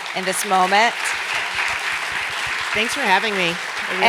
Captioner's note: applause